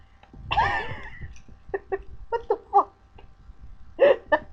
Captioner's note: wheezing; laughing